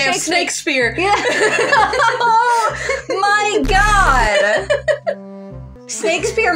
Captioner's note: laugh; laughing; giggle